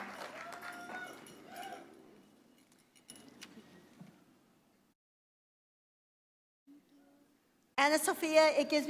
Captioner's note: applause